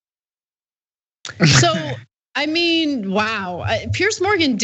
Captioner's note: laugh